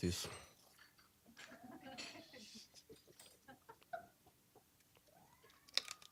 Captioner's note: scattered laughing